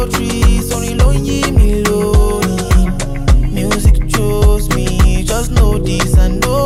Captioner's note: non-english speech